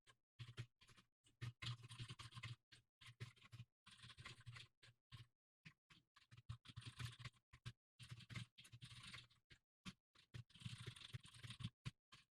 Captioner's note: typing sounds